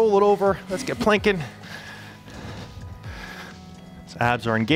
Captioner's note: panting